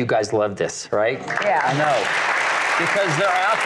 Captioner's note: applause